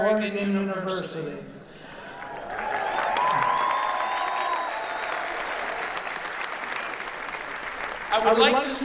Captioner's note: applause